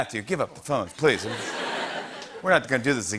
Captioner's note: laughter